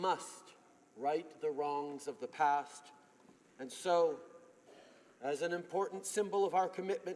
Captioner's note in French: voix de l'interprte